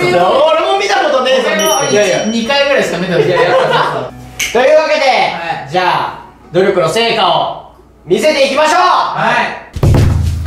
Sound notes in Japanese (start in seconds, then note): 1.5 チリーン; 4.4 パチッ